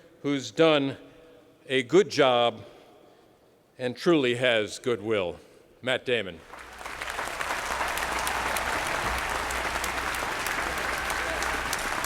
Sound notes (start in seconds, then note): 6.4 applause